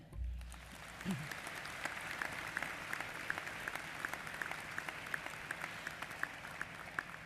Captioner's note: applause